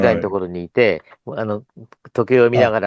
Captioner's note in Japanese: 咳払い